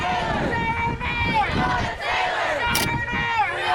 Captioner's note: crowd